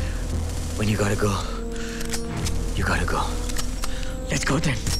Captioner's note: Gun cocking